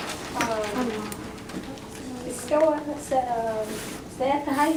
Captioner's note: foreign language spoken